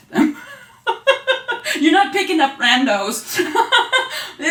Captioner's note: laughing